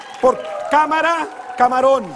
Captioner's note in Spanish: Gritos; Aplausos